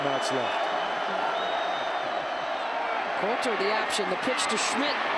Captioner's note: applause